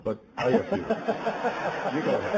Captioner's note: laughing